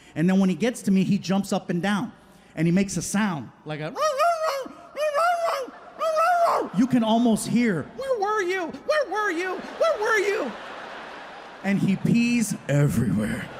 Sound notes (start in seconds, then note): 3.9 imitates dog barking; 10.6 audience laughing